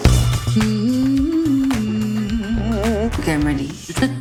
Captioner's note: humming